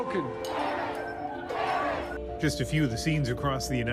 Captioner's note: cheers and Applause